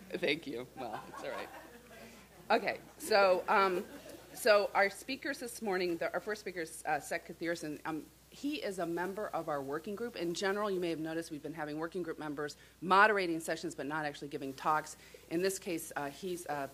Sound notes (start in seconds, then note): 0.8 laughter